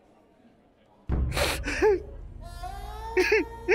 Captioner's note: sniffling